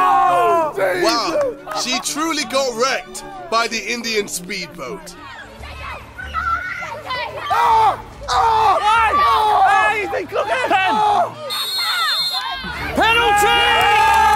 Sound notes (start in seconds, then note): 5.3 kids yelling; 7.7 JJ screaming; 11.4 whistle blows